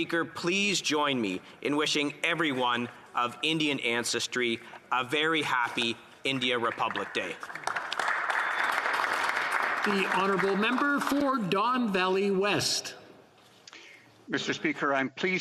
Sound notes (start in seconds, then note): 11.3 some Applause